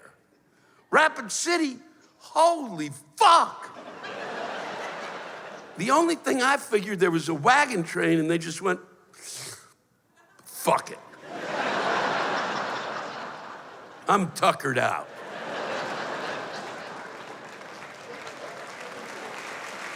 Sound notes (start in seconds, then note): 3.7 laughter; 9.2 sucking sound; 11.1 laughter; 15.7 applause